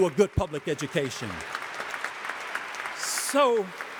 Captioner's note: audience applauding